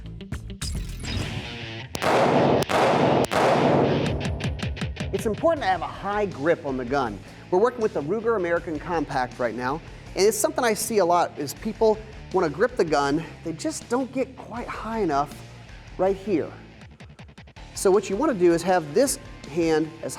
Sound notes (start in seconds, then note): 1.9 gun firing; 1.9 metal music